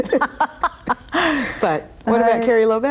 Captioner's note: both laugh